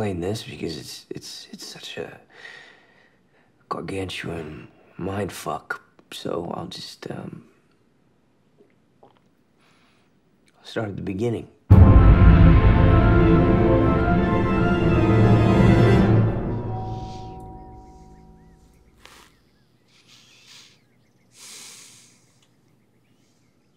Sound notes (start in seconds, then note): 9.0 swallows; 15.7 doorbell rings; 21.8 sighs